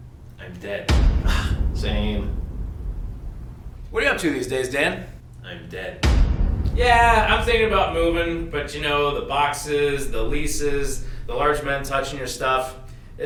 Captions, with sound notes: - I'm dead. (dramatic boom) - Same. - What're you up to these days, Dan? - I'm dead. (dramatic boom) - Yeah, I'm thinking about moving, but you know, the boxes, the leases, the large men touching your stuff,